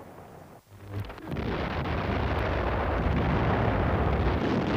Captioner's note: bombs explode